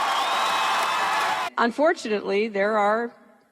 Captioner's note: cheering